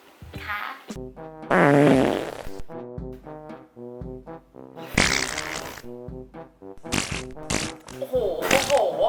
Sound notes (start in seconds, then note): 1.4 heavy fart